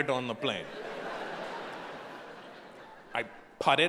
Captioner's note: audience laughing